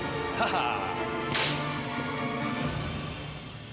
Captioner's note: laughs